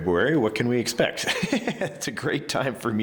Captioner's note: chuckling